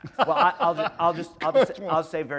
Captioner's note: laughter